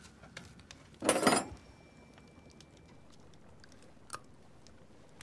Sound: silverware clinking

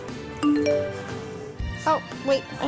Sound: phone beeps

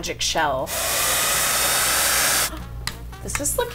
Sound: hair dryer blowing

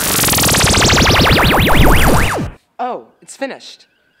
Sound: electric jolt sound

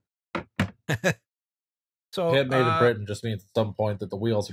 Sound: laughter

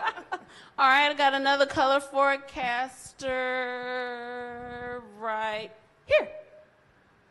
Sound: laughs

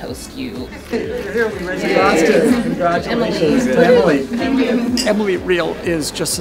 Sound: clinking glasses

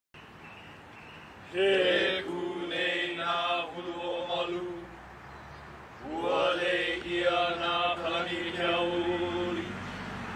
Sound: welcome oli chant in Hawaiian

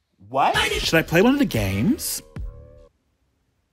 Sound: none

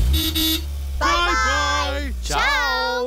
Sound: horn toots

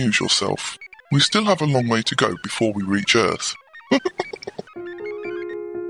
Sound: laughs

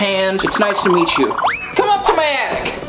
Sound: cartoonish whistling

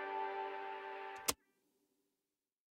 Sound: click

